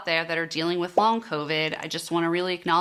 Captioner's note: bubble popping